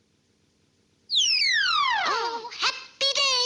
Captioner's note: air squeals